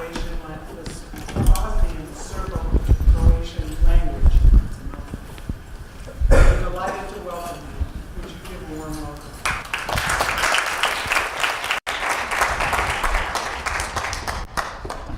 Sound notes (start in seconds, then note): 9.4 applause